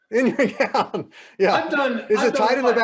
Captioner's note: laughing